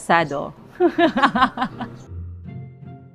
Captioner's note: laughs